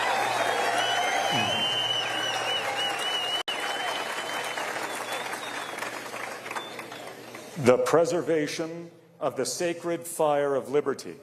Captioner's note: cheers and applause